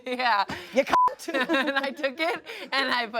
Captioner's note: beep